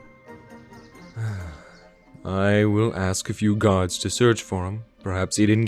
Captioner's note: sigh